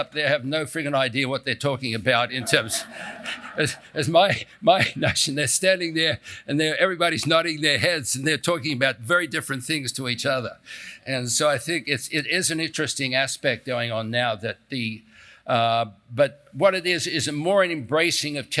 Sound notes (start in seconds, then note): 2.2 laugh